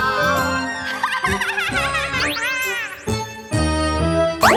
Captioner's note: witch cackles